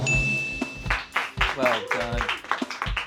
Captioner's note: bell dings; friends clap